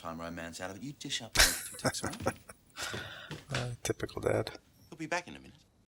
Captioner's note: chuckling